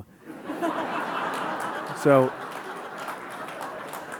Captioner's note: audience laughing